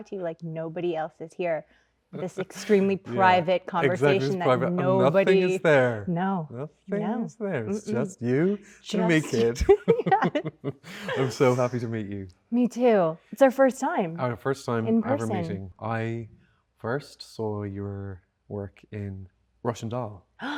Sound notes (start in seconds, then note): 9.0 both laughing